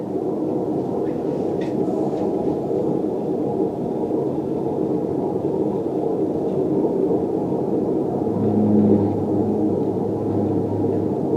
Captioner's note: beautiful High-Pitched Whale song